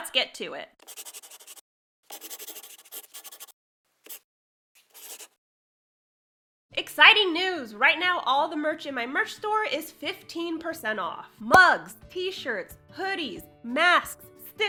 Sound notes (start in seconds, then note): 2.0 the sound of a pen scratching. LOGO